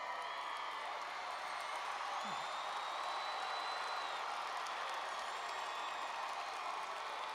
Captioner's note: cheers